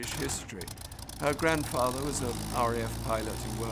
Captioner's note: engine revving